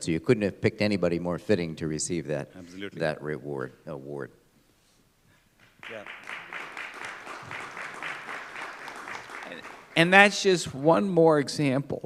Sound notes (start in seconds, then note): 8.9 applause